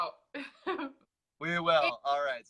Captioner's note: laughs; chuckles